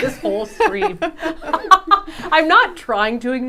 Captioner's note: laughing